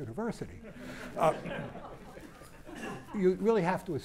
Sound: laughter

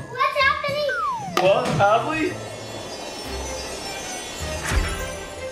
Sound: sparkling noises

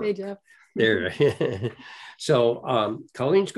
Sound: laughs

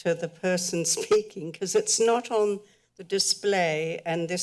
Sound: chuckles

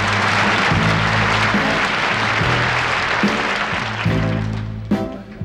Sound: audience applauds

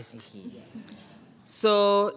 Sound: audience chuckling

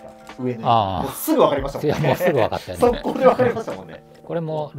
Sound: laughing

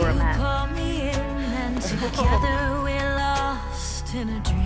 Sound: relieved laughter

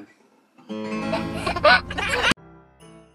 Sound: laughs; slow cheerful music

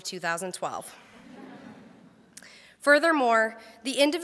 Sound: crowd laughs

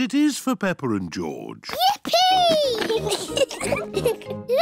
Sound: giggles

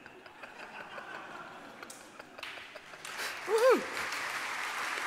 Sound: applause

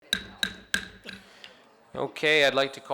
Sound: gavel banging

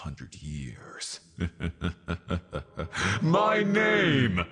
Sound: evil laughter

